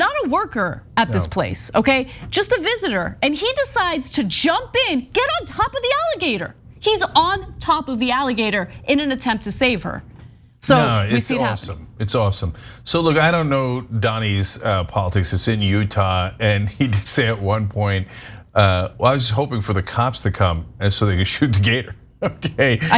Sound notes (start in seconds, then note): 16.6 laugh; 22.2 laugh